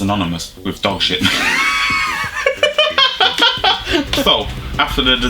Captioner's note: both Laugh